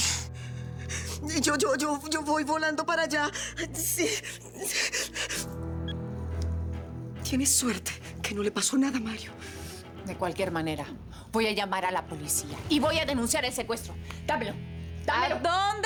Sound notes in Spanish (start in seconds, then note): 2.6 Sollozos; 6.4 Bip